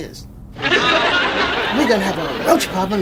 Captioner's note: audience laughs